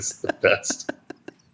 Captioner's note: laughter